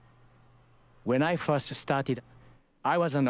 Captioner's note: voiceover